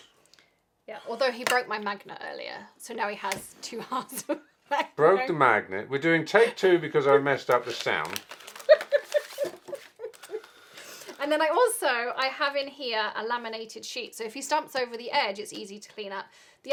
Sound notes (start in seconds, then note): 8.6 laughs